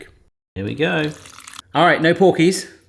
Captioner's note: stock pouring